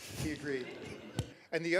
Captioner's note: laughter